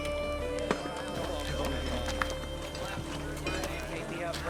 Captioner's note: chatter